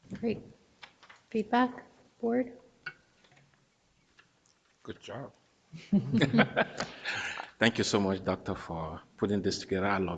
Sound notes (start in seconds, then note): 5.8 board members laughing